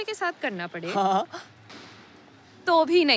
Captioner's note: Chuckles